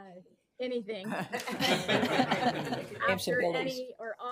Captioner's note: participants laughing